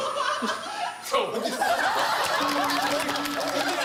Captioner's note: laughs